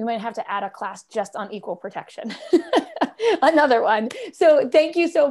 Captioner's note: laughter